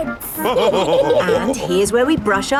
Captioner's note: all laughing